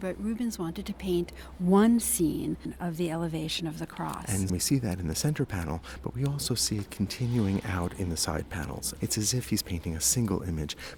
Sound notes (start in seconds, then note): 4.4 voiceover